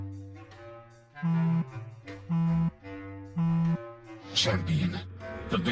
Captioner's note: phone vibrates